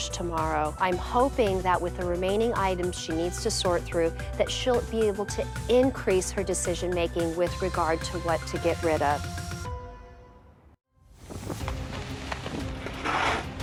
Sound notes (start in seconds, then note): 8.7 suspenseful music; 10.6 wind wooshing; 11.3 shovel scraping